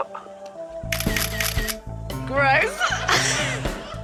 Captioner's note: camera snaps